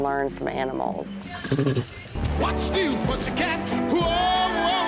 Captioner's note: tiger growls